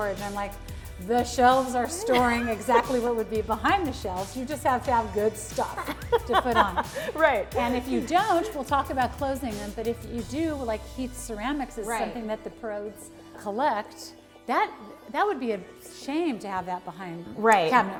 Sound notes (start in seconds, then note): 5.7 laughs